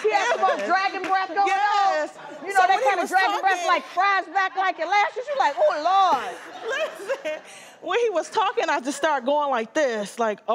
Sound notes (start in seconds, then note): 5.6 laughter